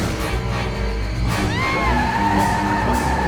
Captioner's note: heather screams; tires screeching